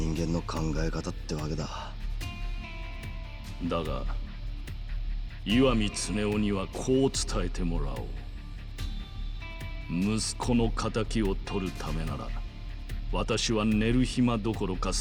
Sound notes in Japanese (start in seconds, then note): none